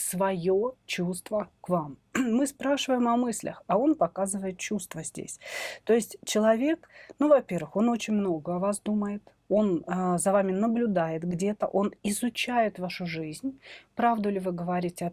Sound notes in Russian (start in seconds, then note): 2.2 откашливается